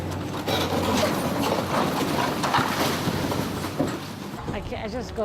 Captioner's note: bricks collapsing